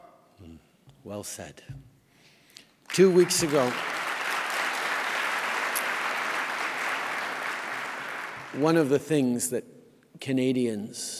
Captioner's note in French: Applaudissements